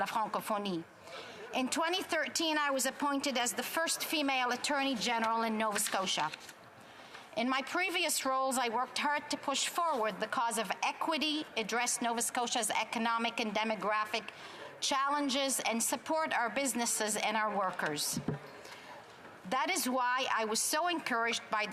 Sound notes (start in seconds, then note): 6.9 speaking French